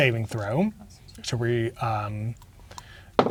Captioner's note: murmuring quietly; dice rolling